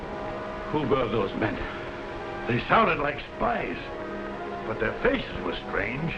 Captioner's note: none